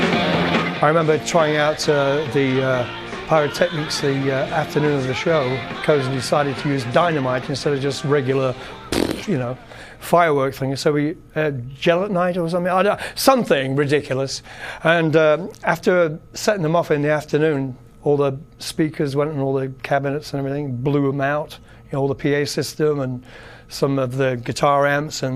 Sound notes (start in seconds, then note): 8.9 explosion sound effects